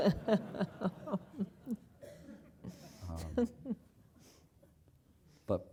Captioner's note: laugh